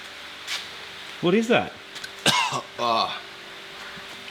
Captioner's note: cough